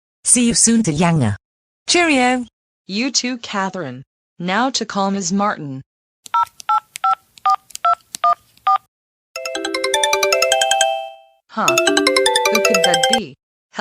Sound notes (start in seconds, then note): 6.3 cell phone dial; 9.3 ringtone